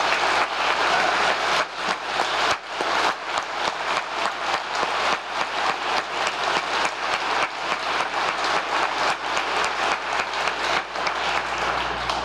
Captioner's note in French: applause